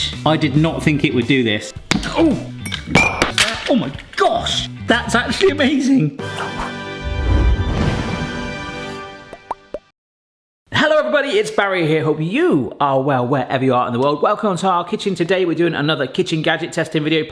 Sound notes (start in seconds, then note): 2.4 plastic clicks sharply; 2.6 glass clatters; 3.9 mould springs sharply; 6.2 triumphant music